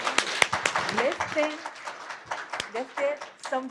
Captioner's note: applause